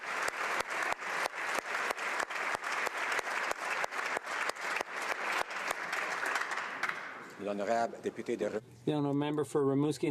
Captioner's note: some Applause